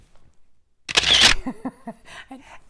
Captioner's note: camera shuttering; laughs